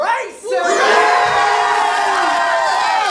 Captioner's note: cheering